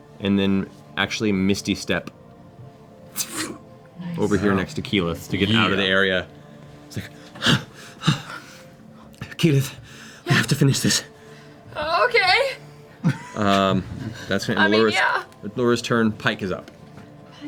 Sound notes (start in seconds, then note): 9.7 breathing hard